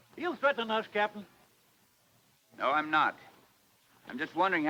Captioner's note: none